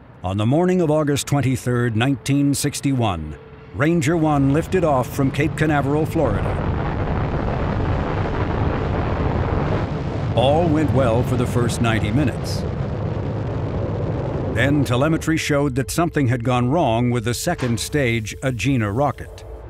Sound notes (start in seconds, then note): 7.4 rocket engines roaring